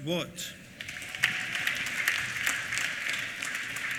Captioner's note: applause